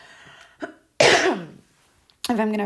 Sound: coughs

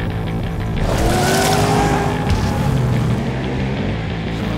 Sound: engine revving

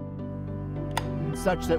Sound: light switch clicks on

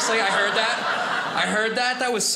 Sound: audience laughing

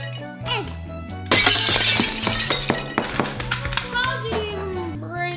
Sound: glass shattering

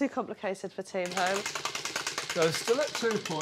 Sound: wheel clacking

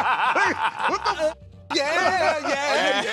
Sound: laughter

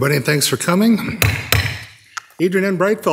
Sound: gavel thudding

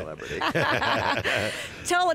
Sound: laughs

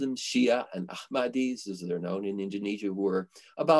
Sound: foreign language

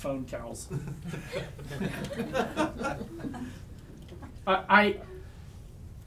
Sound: audience laughs

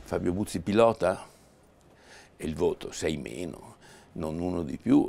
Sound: speaking in foreign language

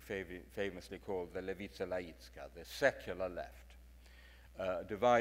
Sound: speaks in foreign language

